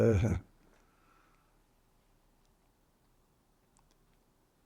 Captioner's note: pauses 8 seconds